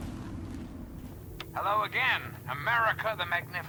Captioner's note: Breaker turns on the radio